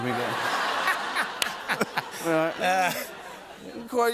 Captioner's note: laughs